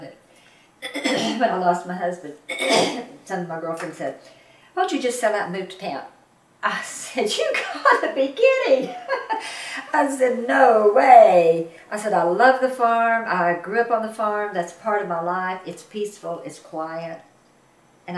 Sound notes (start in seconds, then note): 8.8 laughs